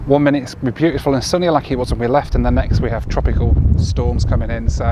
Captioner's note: none